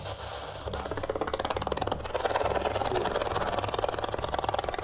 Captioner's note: deep sputtering